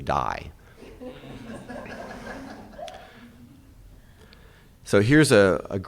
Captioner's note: audience laughing